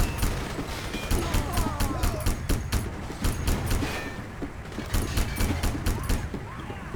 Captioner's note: gunfire; gunfire